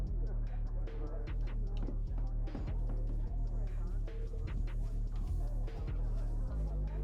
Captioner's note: distant party music playing; people chattering